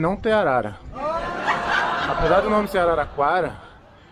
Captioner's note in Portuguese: homem ri alto em meio a público de clube de comédia